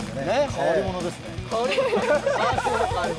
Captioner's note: laughing